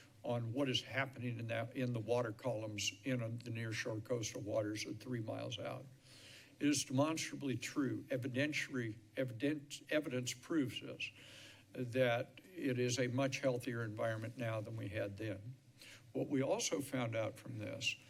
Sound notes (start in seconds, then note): none